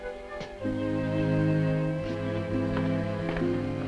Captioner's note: none